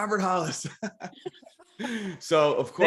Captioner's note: laughing